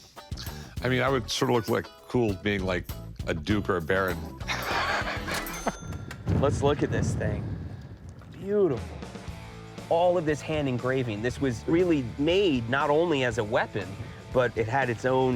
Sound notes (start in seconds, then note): 4.4 laughs